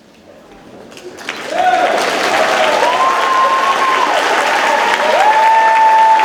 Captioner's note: audience claps and cheers